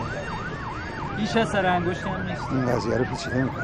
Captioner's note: siren